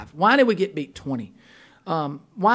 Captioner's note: voiceover